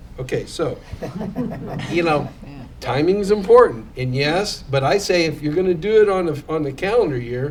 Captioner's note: laughter